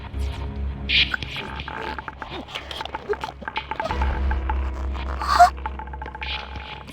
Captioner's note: choke